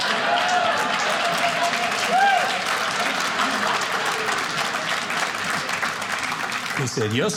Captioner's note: audience laughing; audience cheering